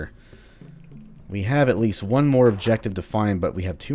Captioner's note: journal opens